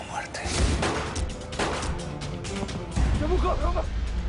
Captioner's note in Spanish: Detonaciones de disparos